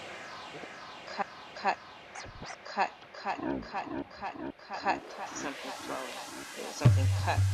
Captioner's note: echoes